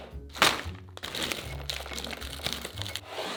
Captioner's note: bag rustling